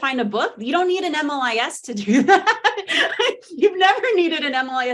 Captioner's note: laughing